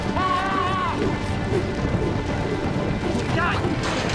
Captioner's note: hoofbeats